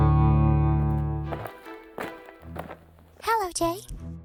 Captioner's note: footsteps